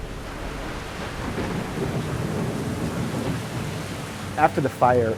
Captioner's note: heavy rain & thunder